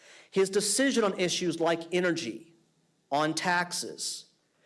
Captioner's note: none